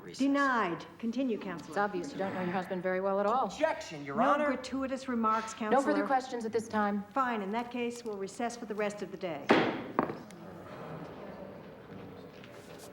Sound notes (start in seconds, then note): 9.5 slams gavel; 10.2 indistinct chatter